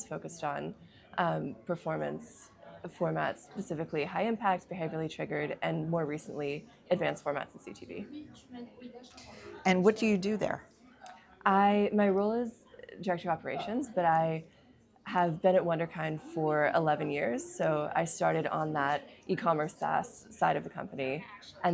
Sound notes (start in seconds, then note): 8.1 people chattering